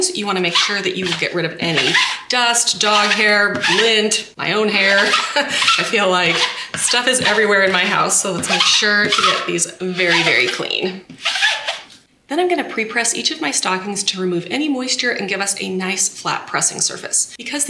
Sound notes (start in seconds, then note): 11.2 lint roller squeaking